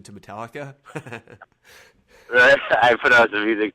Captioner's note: laughs